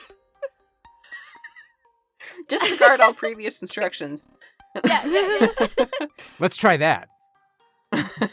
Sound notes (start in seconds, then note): 4.8 laughs